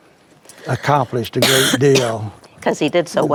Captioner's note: coughs